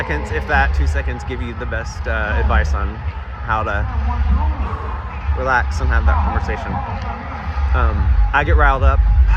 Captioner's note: takes a deep breath